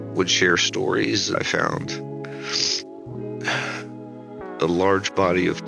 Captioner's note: sniffles